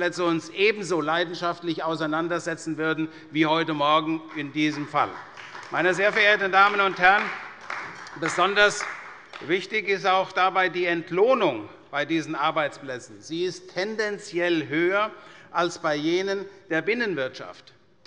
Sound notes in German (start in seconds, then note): 6.6 Beifall bei der CDU